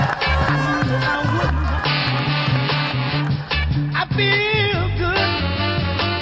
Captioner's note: cheering, applause, and happy music